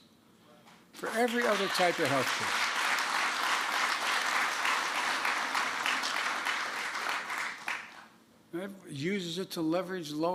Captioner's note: applause